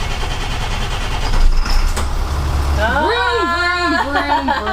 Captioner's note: bus starting up